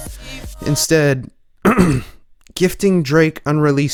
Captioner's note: ahem